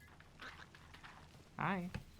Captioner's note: frog croaks welcomingly